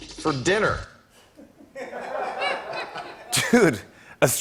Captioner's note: laughter